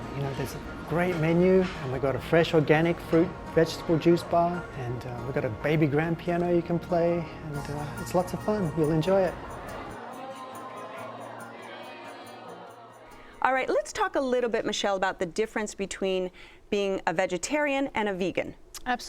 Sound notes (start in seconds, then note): 10.4 chattering